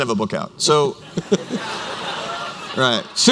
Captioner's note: laughter